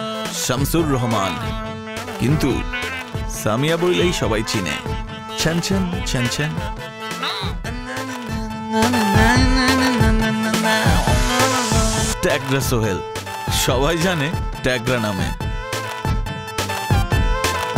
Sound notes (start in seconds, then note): none